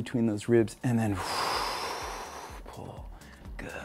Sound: exhaling

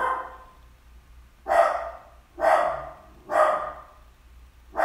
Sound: ruff!

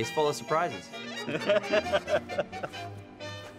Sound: laughter

